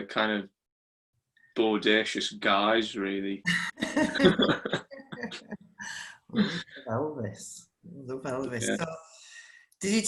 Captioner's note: laughs